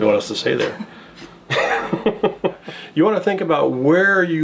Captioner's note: laughing